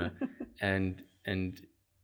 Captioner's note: laugh